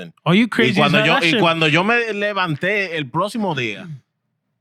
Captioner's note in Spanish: Hablando en idioma extranjero